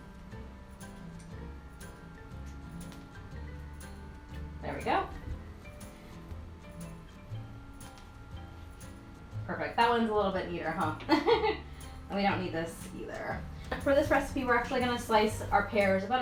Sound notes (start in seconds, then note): 0.1 upbeat string and piano music; 11.0 laughs